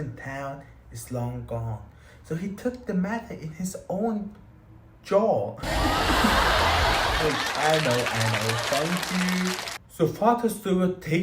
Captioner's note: applause